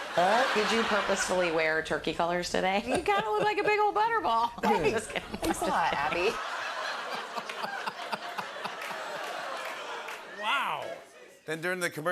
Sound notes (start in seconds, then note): 6.0 laughter